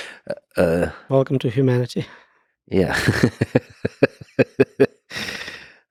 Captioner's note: Lex laughing